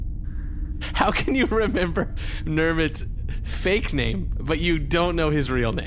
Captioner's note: laughing